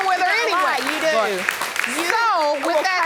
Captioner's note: audience clapping